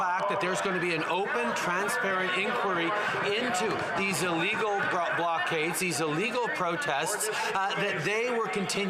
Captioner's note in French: voix de l'interprète